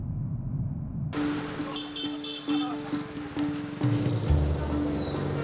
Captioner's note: horns honking